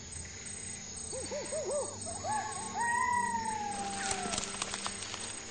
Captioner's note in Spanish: Chillidos de monos